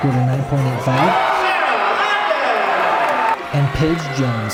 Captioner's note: crowd cheers and claps